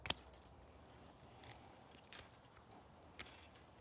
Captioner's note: trimmers snip